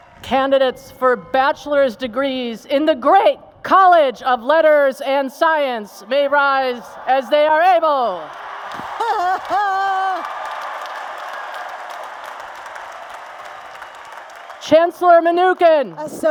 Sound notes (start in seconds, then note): 8.8 laughter; 9.8 applause and Cheers